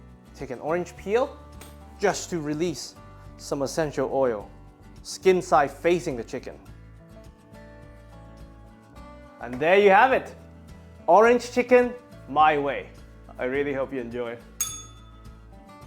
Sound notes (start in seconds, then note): 14.6 bell rings